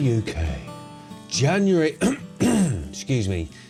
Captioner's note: cough